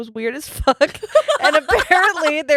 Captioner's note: laughing